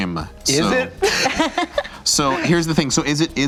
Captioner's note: laughs